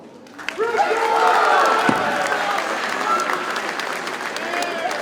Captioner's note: audience cheers and applauds